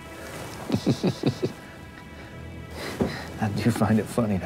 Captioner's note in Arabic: ضحكة مكتومة